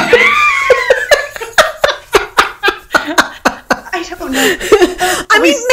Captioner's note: laughing